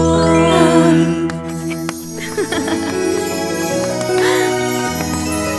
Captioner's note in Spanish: Risas